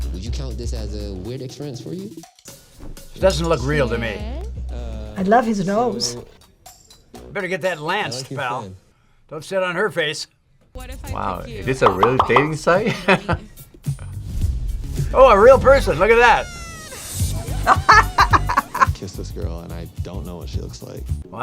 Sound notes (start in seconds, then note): 14.4 laughs; 17.4 laughs